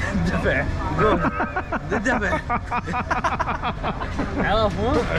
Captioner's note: laughs